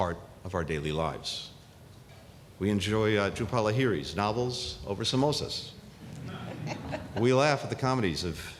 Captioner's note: laughter